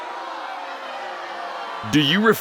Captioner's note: crowd yelling